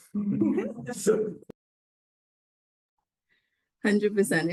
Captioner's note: panellists laughing